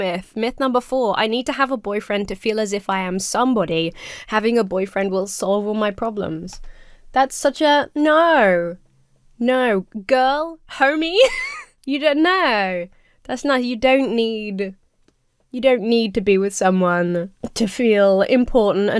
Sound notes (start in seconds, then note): 11.0 laughs